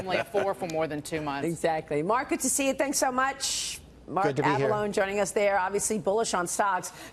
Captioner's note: laughter